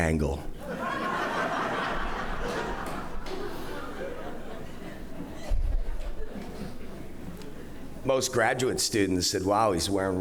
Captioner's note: laughter